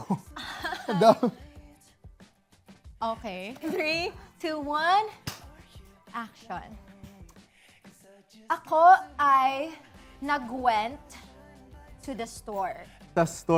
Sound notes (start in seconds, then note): 0.0 chuckling; 5.7 claps